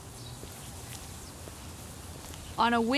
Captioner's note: birds chirping, footsteps falling